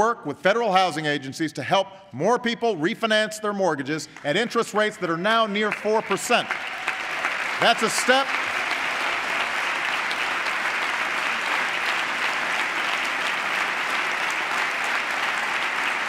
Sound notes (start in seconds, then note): 11.4 applause